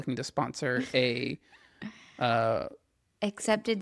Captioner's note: laughs